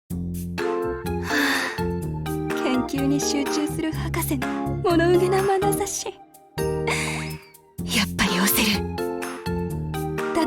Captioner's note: sigh